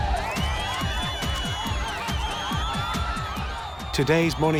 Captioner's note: shouting, whistling